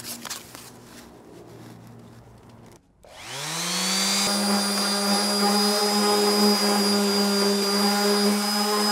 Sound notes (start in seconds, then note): 2.9 sander buzzing